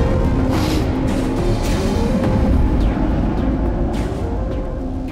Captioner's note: leader sniffs loudly